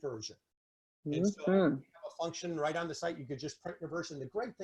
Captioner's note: speaking faintly